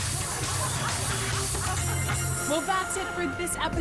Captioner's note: audience laughing